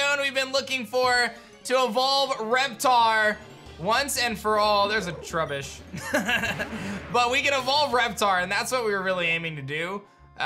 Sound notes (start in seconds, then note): 5.9 giggles